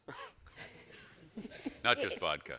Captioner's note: all chuckle